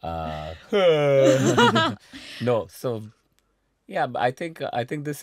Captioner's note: yawns